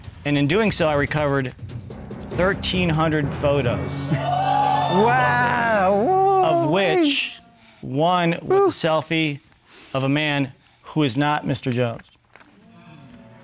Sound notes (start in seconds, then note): 3.8 audience cheers